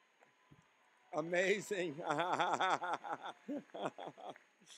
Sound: laughing

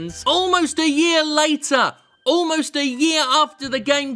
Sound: none

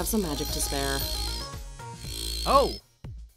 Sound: magic buzzing

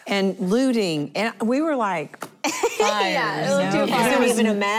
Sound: laughter

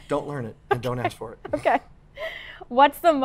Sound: laughs

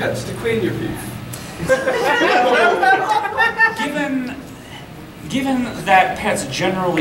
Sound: audience laughing

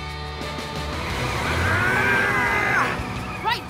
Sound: straining

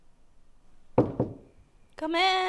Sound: knocks

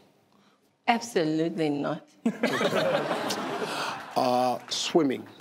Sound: audience laugh

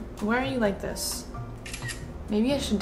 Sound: camera clicks

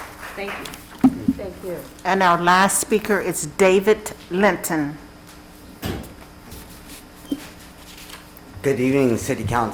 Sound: applause

